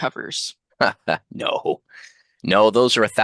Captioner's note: laughs